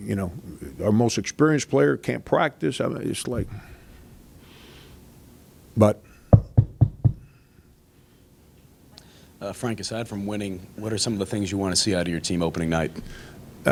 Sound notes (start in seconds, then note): 6.3 knocking on table